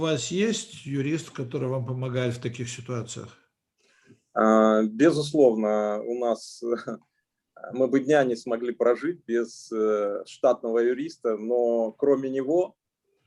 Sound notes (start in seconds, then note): 0.3 translator speaking Russian language; 4.6 speaking Russian language